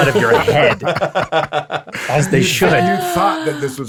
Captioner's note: all laughing